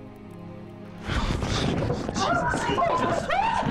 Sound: Stacey gasps; Stacey whimpering

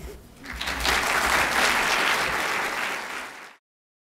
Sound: applause

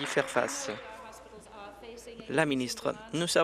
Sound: applause

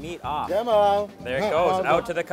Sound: speaking foreign language

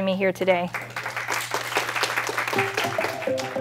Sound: applause

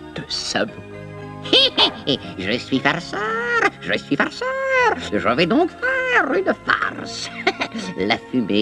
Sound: chuckles

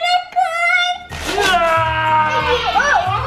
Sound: growling; shouting

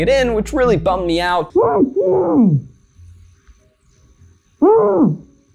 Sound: muffled screams

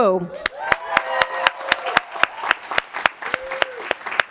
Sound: applause

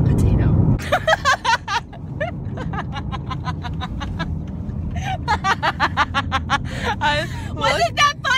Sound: laughter

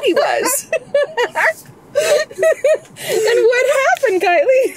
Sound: group laughs

